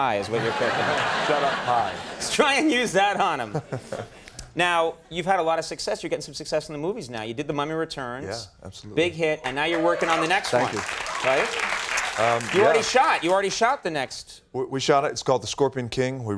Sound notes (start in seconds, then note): 0.2 audience laughing; 1.0 The Rock chuckling; 9.7 audience whoops; 11.7 audience clapping